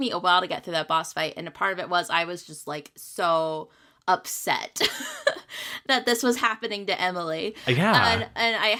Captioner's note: laughs